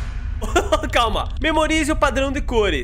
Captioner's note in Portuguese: risos